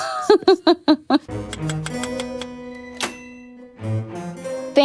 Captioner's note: typewriter clicking